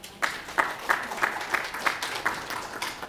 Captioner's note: applause